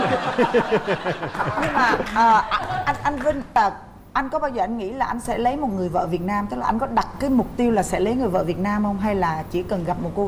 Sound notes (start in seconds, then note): 0.0 laughing